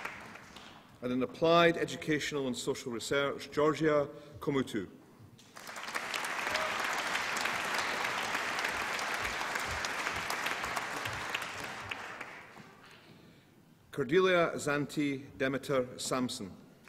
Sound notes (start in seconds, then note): 5.4 applause